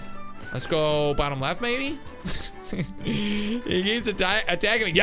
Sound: laughs

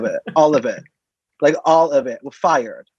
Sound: laughs

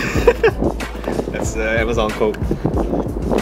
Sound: laughs

